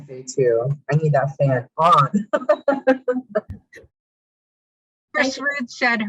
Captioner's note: laughing